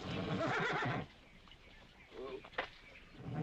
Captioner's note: horse nickering